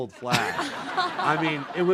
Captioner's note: audience laughing